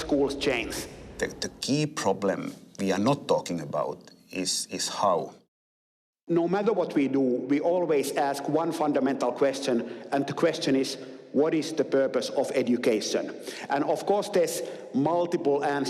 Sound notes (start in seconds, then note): none